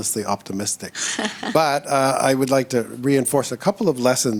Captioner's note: laughs